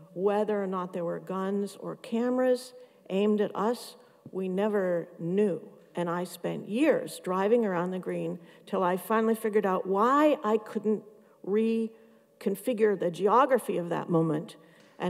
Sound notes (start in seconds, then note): none